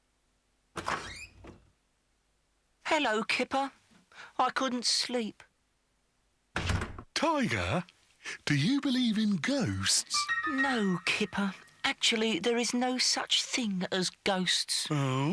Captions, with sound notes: [OPENS DOOR] HELLO, KIPPER. I COULDN'T SLEEP. [CLOSES DOOR] TIGER, DO YOU BELIEVE IN GHOSTS? NO, KIPPER. ACTUALLY, THERE IS NO SUCH THING AS GHOSTS.